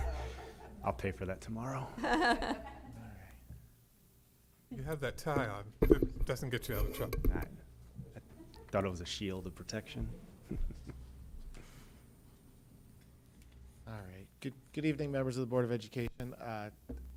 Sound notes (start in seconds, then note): 1.9 laughter; 10.4 chuckle